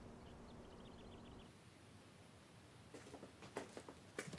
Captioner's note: birds chirping